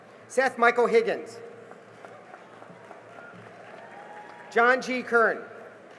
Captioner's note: cheering and applause